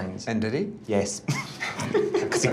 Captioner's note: all laughing